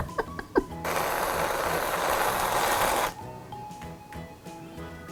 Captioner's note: laughing; spraying whipped cream